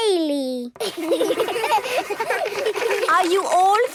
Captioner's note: children giggling